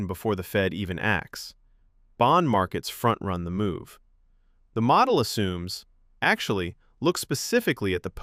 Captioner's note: thoughtful